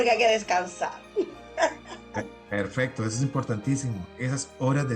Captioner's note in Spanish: risas